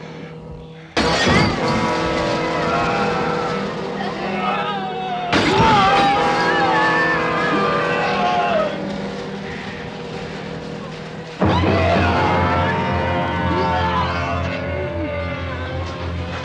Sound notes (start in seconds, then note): 2.1 shouting - groaning; 11.4 screaming